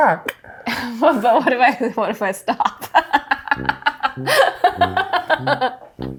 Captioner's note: laughs